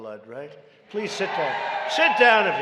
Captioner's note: applause